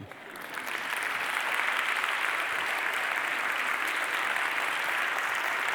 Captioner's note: applause